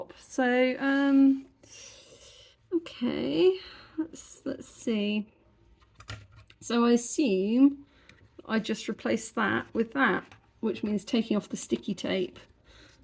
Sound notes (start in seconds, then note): 1.5 deep breath